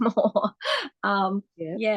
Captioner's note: laughs